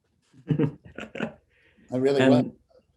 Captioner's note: laughter